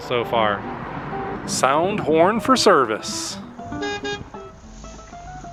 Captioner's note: honking sound effect